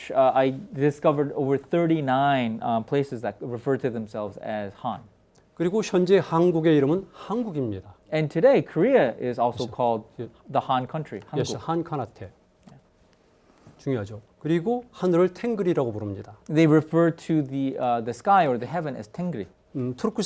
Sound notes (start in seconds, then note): 5.7 speaking in Korean; 14.1 speaking in Korean; 19.9 speaking in Korean